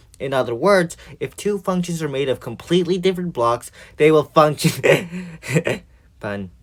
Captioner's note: laughter